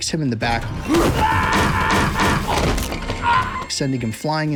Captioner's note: man screaming